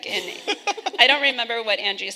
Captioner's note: people laughing